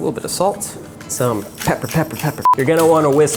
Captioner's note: beeps